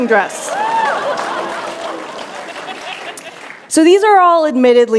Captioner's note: cheers